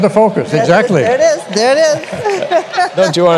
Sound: laughter

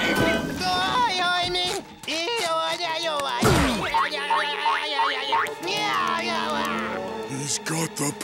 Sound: babbling

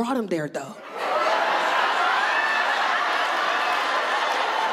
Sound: audience laughing

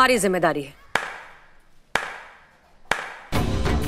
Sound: claps

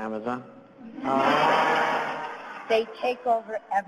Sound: laughter

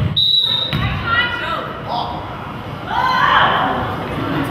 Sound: whistle blows

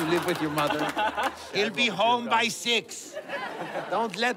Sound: laughter

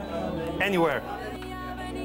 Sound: eating

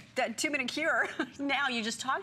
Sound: laughter

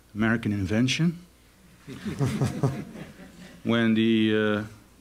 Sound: laughter

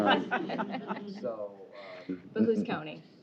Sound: laughter

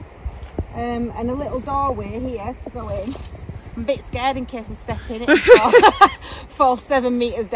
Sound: laughing

